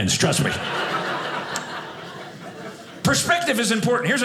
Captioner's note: audience laughing